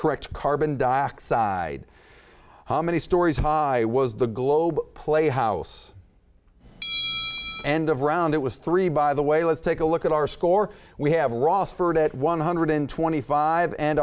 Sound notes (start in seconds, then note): 6.7 bell dinging